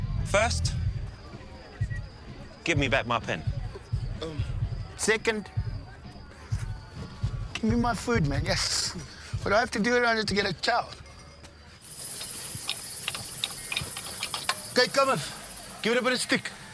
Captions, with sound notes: - First. Give me back my pen. - Oh. - Second. Give me my food, man. Geez. What do I have to do around here to get some chow? (cicadas hissing and tools clanking) - Okay, Cummif. Give it a bit of stick.